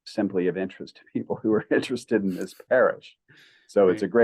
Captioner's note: chuckles